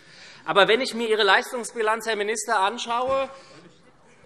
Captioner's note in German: none